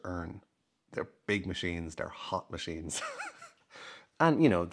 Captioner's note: chuckles